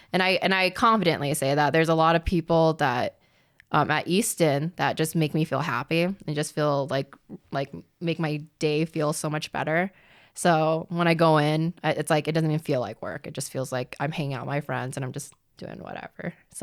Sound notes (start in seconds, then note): none